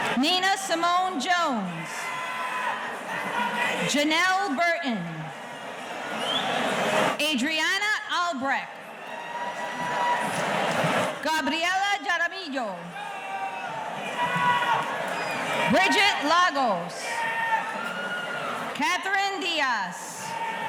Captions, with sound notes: Nina Simone Jones. Genelle Burton. Adriana Albrek. Gabriela Darmillo. (audience cheering) Bridgette Lagos. Kathryn Dias.